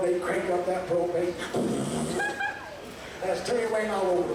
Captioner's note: making explosion sound